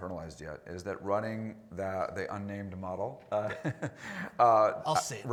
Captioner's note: laughs